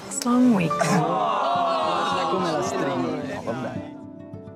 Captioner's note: boos